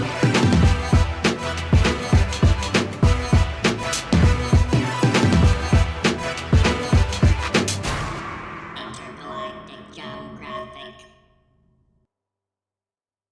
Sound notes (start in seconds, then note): 8.8 robotic Voice